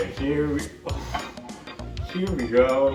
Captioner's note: exhales in disbelief